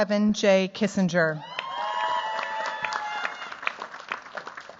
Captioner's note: cheers, applause